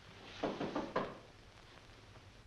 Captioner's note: knocking on door